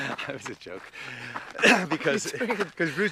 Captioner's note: laughs